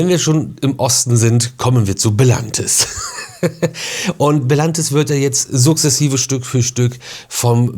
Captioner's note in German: gelächter